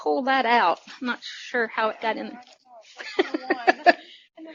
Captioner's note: laughter